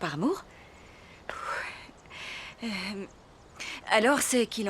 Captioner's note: nervous sigh